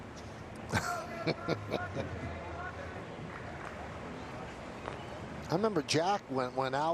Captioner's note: laughter